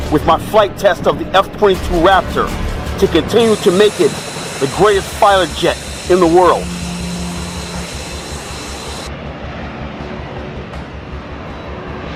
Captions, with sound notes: with my flight test of the F-22 Raptor to continue to make it the greatest fighter jet in the world. (jet engine buzzing)